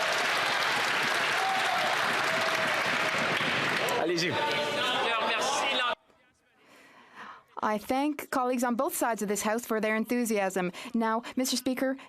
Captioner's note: some Applause